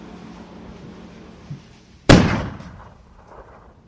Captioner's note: gun shot